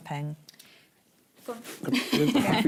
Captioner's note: laughs